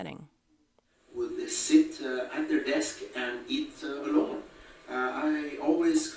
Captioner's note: voiceover